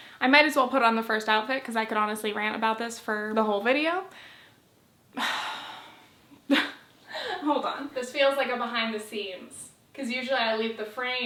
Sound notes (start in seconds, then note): 5.2 sigh